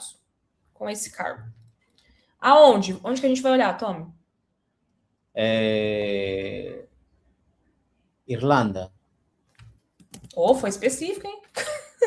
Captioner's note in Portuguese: risadas